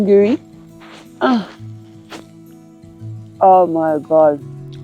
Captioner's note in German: grunzt